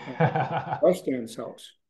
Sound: laughing

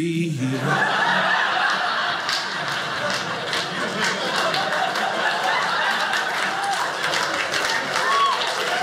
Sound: audience laughing; audience applauding

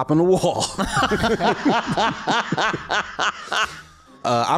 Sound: laughs

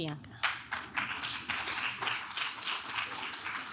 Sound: clapping

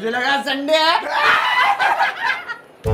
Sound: laughter

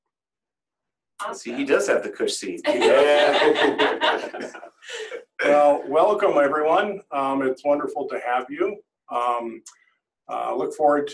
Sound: laughter

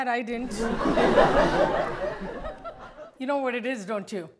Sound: audience laughs

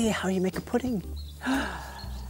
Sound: gasp!

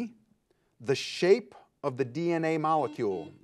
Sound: buzzer buzzes

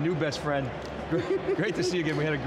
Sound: laughs

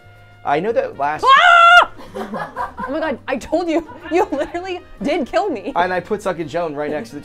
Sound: screaming

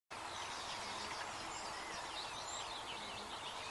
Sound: birds chirping

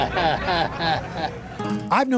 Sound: chuckles

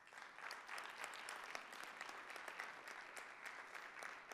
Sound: audience applauding

